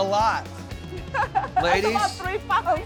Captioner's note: chuckling